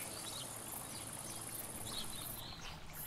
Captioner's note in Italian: Suoni della natura